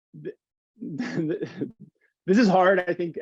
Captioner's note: chuckling